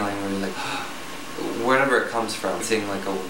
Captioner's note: gasping